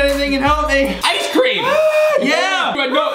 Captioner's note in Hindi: चिल्लाना